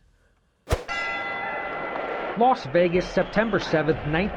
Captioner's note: bell rings